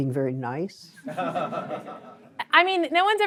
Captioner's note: laughter